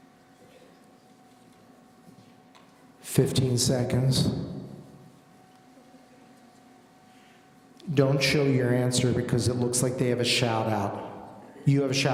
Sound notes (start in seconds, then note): none